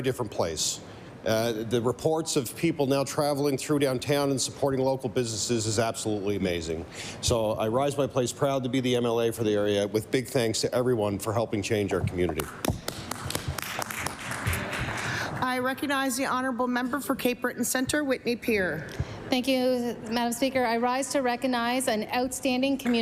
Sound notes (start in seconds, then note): 15.8 applause